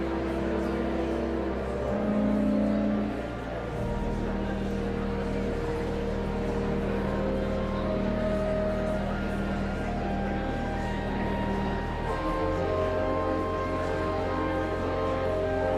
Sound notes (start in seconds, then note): 0.1 whimsical organ music continues; 5.1 audience chattering continues; 15.5 whimsical organ music continues